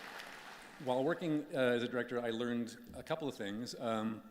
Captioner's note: applause